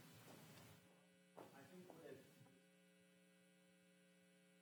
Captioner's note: attendee speaking softly